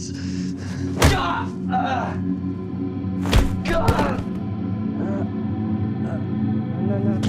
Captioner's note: grunts